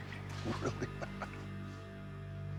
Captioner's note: chuckles